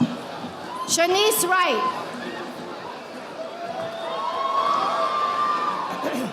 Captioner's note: audience applauding